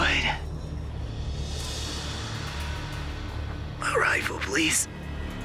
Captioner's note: says in weak voice